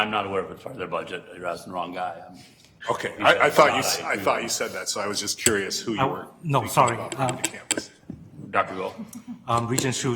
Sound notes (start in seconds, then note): 4.5 speaking faintly